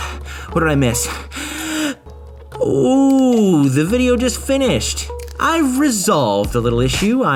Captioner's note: gasp for breath